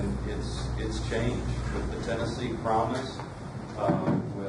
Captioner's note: none